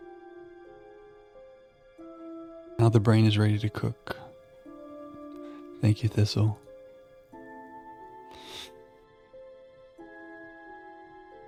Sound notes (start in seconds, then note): 8.3 sniff